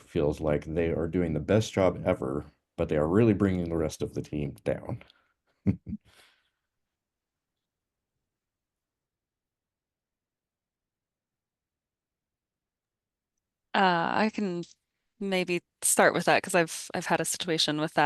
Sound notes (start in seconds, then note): 5.6 chuckles